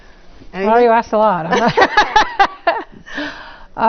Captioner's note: laugh